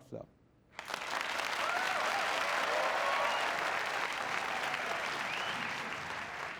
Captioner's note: applause